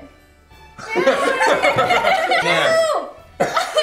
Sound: laughter

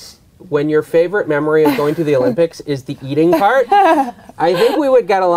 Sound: laughs

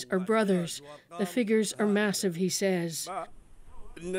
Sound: speaking alternate language

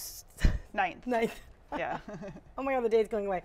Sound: laughter

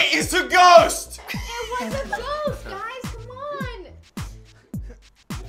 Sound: laughs

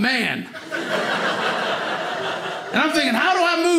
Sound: audience laughing

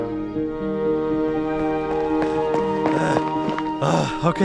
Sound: running footsteps approach

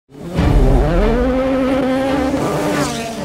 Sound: car engine

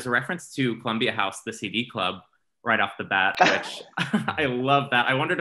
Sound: laughs

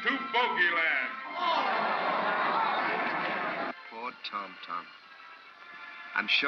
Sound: booing crowd

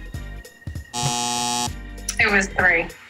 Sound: buzzer sound

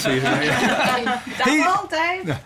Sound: laughter

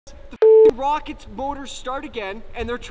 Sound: beep

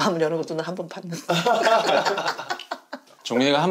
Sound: laughing

